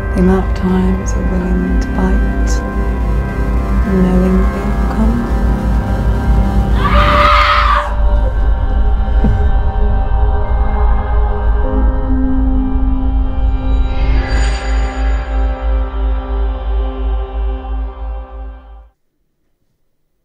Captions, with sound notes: The amount of times you're willing to bite, knowing the outcome (harrowing frequency) (possessed scream)